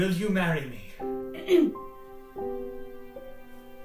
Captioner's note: clears throat